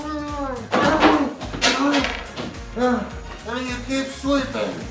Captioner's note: broom clatters